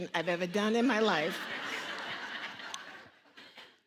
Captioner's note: audience laughing